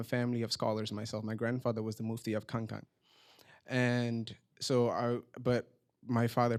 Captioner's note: non-english